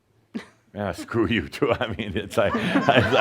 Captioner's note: she chuckles; laughter